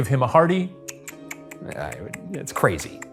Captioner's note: tongue clicks